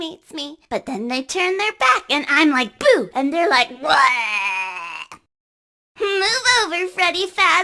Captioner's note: screaming absurdly